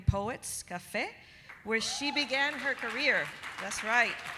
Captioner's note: audience applauding